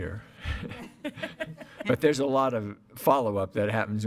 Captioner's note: laughing